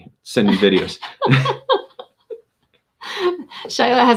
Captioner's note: laughing